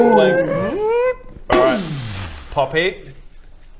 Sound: boom!; boooommm

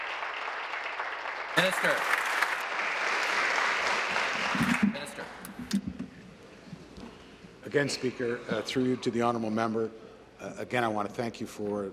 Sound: applause

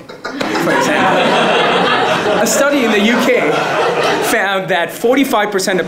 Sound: laugh

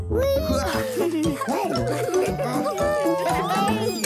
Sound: laughing; giggling

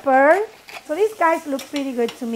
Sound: pepper grinder grinding

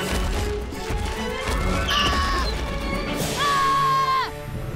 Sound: screaming

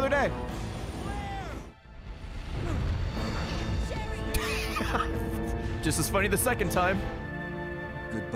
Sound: laughs

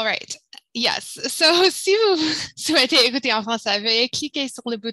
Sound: speaking french

